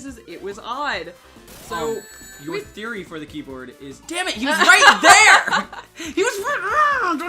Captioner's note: laughing